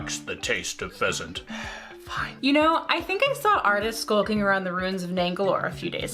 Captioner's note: sighs